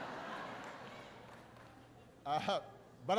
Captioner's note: laughter